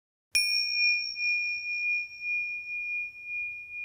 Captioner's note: bell chimes